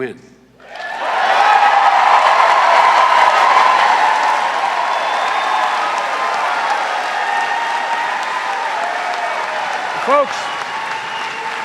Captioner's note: cheers and applause